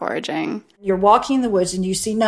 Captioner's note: soundbite of archived recording